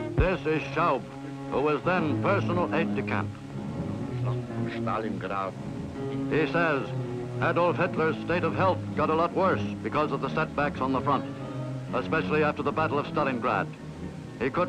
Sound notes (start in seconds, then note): 4.6 speaking in German